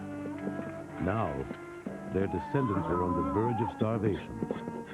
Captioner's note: mule Braying